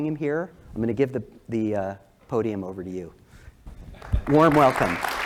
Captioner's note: applause